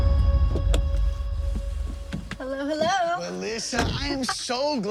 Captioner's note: gravel crackling